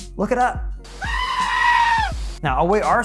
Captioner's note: sheep screams